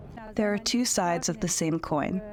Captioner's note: through translator